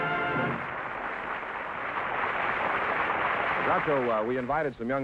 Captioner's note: applause